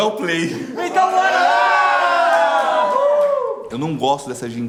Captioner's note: everyone cheers